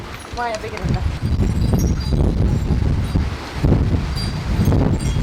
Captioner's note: wind chimes rustle